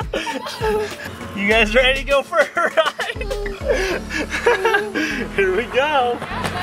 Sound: laughing

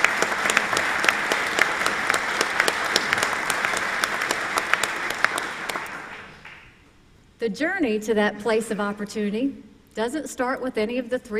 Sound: applause

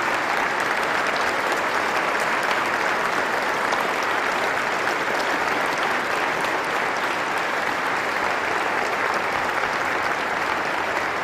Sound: applause

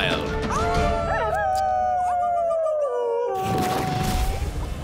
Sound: Direwolf howl

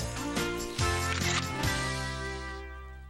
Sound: camera Click

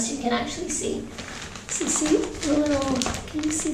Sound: bag rustles

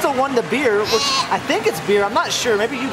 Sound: grunts

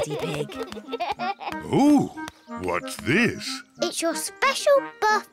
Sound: chuckles; giggles

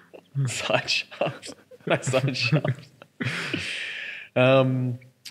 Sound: laughing

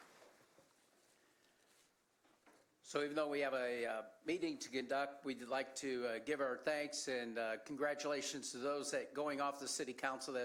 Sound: applause

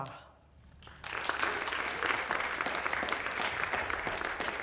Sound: applause

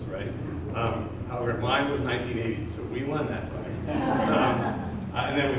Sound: laughter

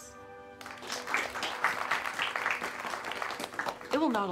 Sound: everyone claps

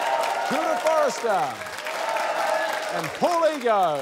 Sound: cheering, applause

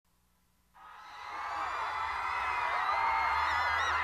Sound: fans screaming

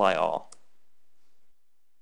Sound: click

